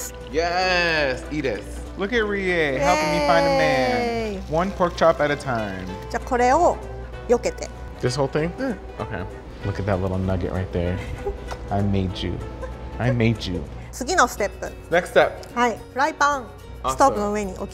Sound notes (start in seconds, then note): 11.0 laughs; 14.2 speaking in foreign language; 17.5 speaking in foreign language